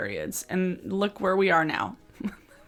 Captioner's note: laughs